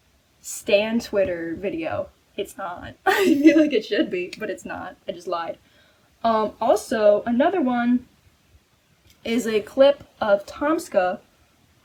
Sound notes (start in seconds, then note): 3.0 laughs